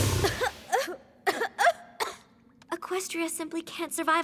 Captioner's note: snorts; coughing